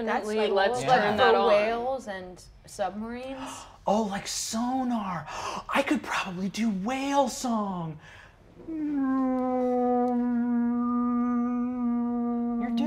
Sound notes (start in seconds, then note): 5.2 gasps excitedly; 8.6 mimics whale vocalizations